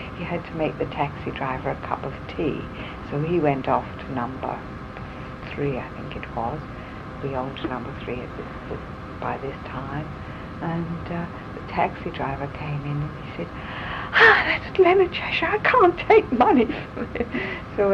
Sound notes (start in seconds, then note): 14.6 sighs